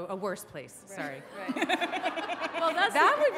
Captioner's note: audience laughs